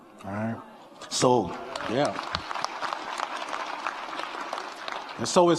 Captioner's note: audience applauding